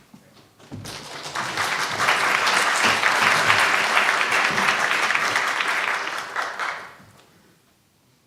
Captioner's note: applause